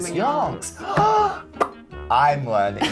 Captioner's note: gasping